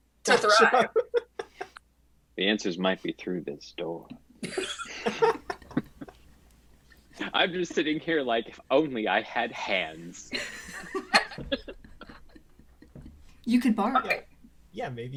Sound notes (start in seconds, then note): 4.4 cast laughs; 9.4 cast laughs